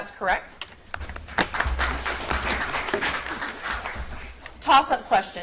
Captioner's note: audience applauds